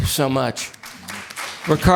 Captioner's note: applause